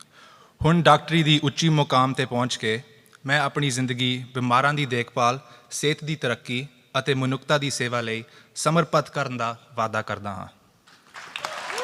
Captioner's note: speaking punjabi; applause